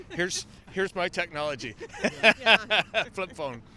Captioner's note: laughter